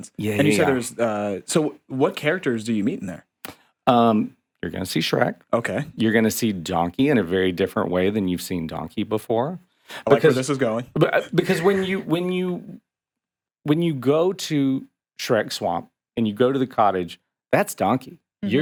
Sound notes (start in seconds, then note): 11.3 chuckling